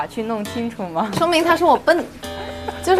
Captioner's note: laughs